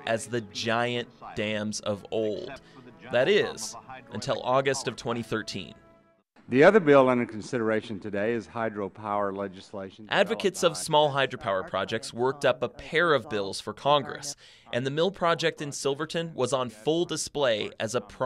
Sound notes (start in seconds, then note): 10.5 voiceover